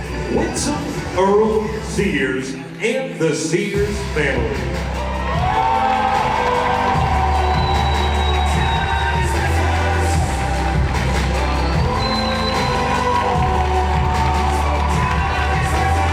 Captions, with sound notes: Winsome Earle-Sears and the Sears family. (audience cheers and applauds) (uplifting music) (audience cheers and applauds)